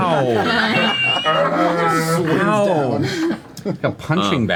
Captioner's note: all laugh